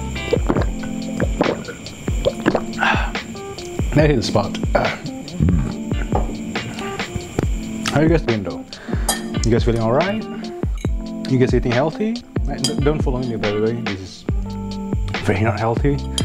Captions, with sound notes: that hit the spot (burp) how are you guys doing, though? you guys feeling alright? you guys eating healthy? don't follow me by the way, this is very not healthy